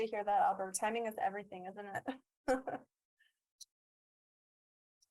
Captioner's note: chuckles